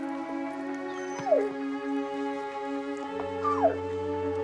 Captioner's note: whimpering